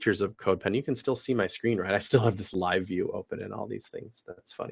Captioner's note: laugh